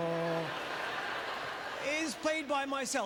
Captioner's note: audience laughter